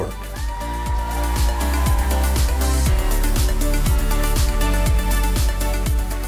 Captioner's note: audience cheering and applauding